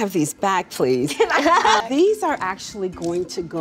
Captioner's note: all laughing